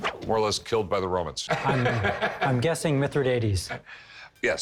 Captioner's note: laughs